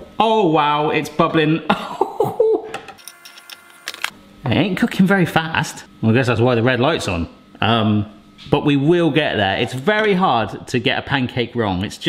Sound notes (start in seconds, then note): 1.6 chuckling